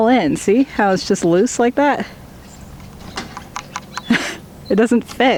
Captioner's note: clicking noise